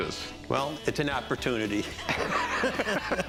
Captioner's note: laughs